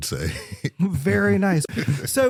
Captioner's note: laughter